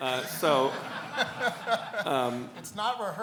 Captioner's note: laughs